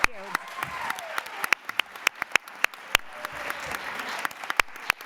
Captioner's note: applause